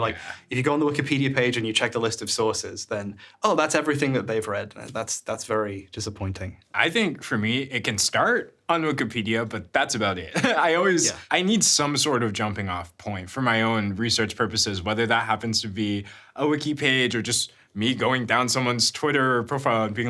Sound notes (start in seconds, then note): 10.3 chuckles